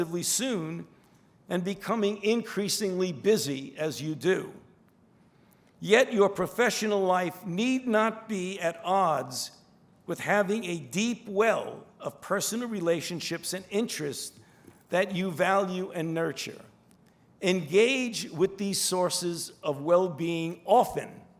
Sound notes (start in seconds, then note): none